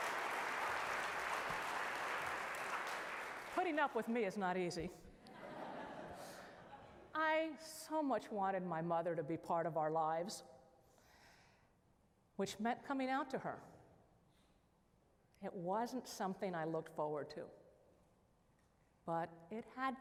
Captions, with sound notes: putting up with me is not easy, (laughter) I so much wanted my mother to be part of our lives, which meant coming out to her. It wasn't something I looked forward to,